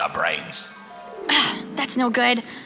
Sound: sigh

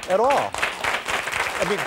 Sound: audience applause

